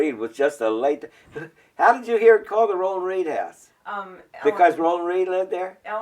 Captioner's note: laughs